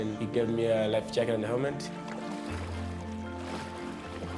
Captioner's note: splashing